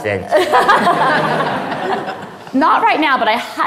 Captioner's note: audience laughing